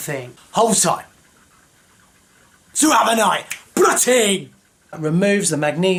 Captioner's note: yells in thick accent